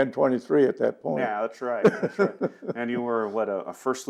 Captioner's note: laughing